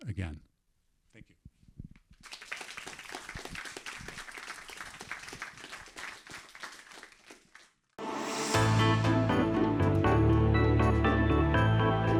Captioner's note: applause